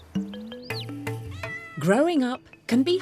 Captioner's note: kitten meows